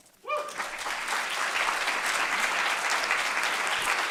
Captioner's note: audience clapping